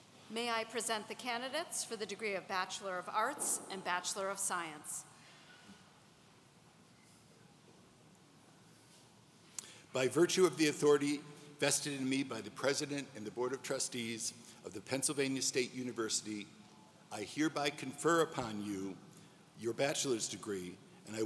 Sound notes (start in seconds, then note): none